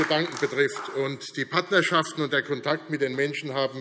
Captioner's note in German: Beifall AfD